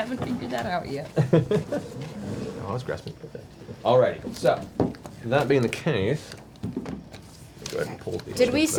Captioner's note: laughs